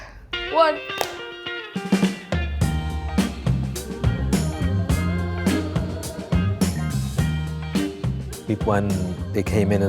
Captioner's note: clap